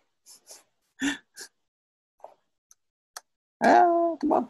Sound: laughs

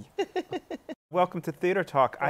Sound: laughs

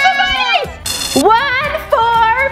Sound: buzzer buzzes

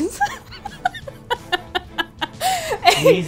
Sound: laughs

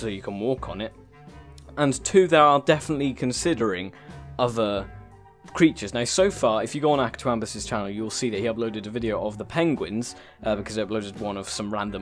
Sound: another gasp; gasp

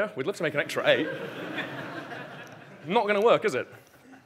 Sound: audience laughing

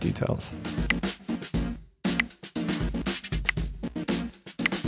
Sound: tally clicks; upbeat music

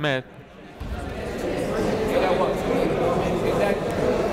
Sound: chatter

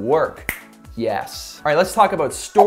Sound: snaps

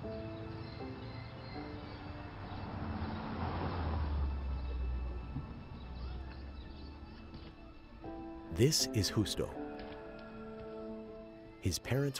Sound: cars going

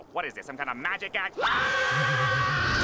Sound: screaming

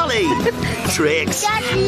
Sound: laughing

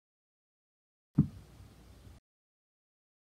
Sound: thump sound

